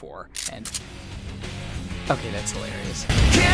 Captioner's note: click-clack of gun pumping